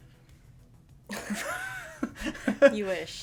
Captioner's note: laughter